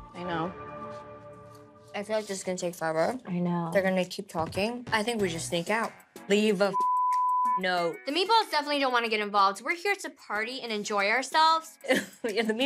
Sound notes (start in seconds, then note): 6.7 beep